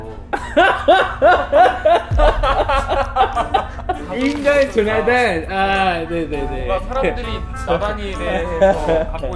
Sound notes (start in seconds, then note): 0.2 laughing; 2.1 his laughter is contagious